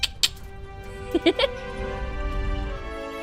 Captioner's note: tongue click; Bot laughs; triumphant music